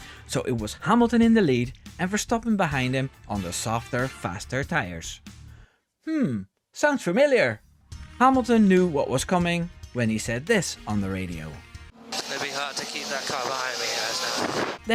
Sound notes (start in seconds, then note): 12.6 radio